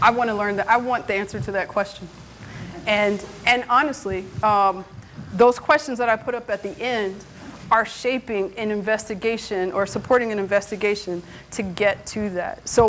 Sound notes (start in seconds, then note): 2.6 student laughing